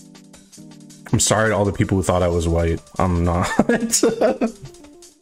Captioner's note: breaking off into laughter